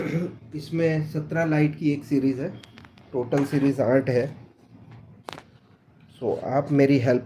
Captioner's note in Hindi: गला साफ़ करने की आवाज़